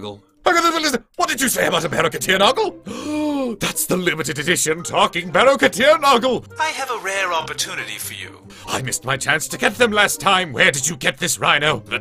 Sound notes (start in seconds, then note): 2.8 deep Inhale